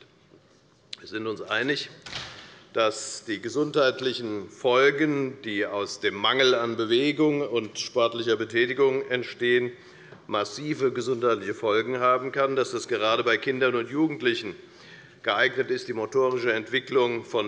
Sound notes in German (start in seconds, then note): none